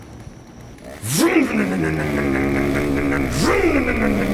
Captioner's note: motor rumbling